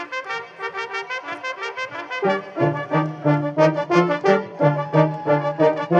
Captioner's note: cheering and applause